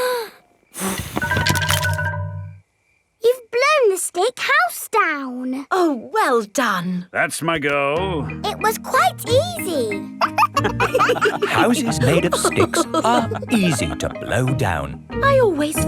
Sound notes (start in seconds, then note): 0.7 blowing; 10.1 wolves laughing